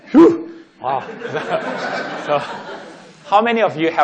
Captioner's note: laughing